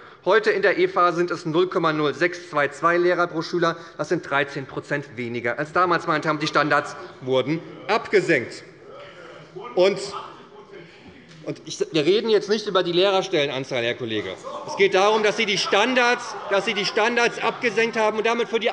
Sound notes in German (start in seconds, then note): 14.2 Lachen bei der CDU